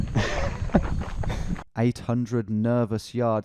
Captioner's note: laughing